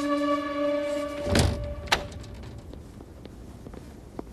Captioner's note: door opens